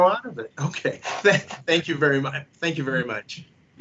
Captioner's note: laughs